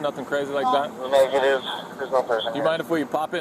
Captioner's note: radio chatter